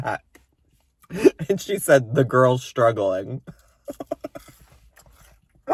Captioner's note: laughs